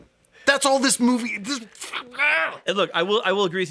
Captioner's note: grunts in frustration